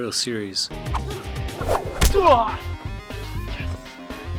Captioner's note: grunting